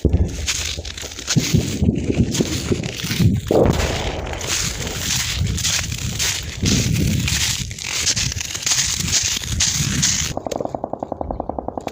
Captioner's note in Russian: Вдали стрельба и взрывы